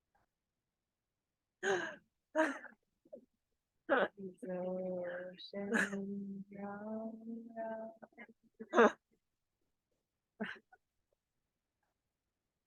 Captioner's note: laughter in the background